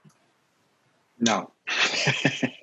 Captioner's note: laughs